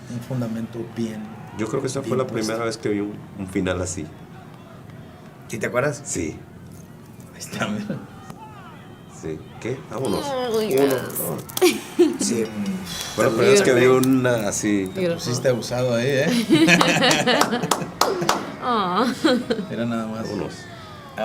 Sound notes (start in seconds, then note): 11.8 laugh; 16.1 laugh; 16.6 applause